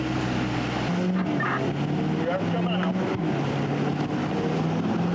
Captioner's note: radio chatter